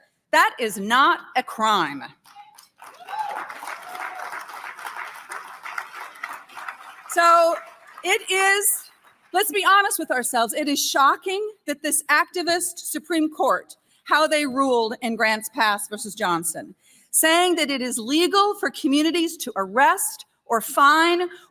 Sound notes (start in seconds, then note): 8.3 applause